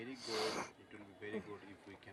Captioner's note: sniffles